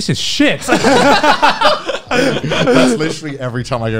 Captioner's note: laughing